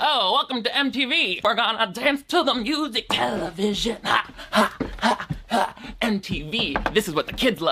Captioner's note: hums